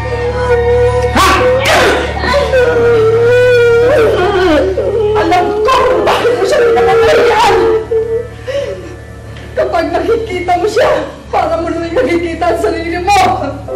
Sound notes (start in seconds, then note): 1.8 Celia grunts; 8.4 sobs